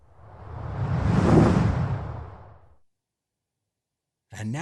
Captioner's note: air swooshing